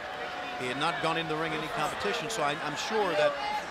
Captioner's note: crowd chatter